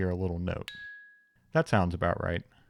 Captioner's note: wheel dinging